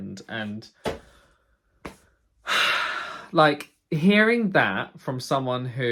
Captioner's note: sighs